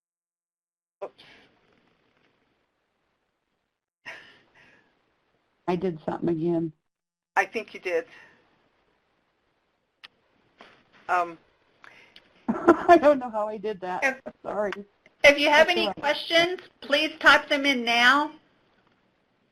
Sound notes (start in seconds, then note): 12.5 laughs